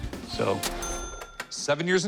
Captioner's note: ding